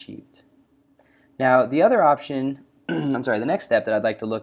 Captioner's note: coughs